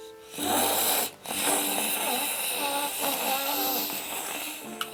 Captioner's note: snorting sound